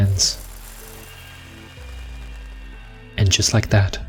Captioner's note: sand Falling and Ringing